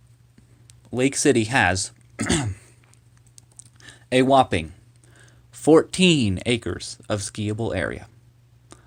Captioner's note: clears throat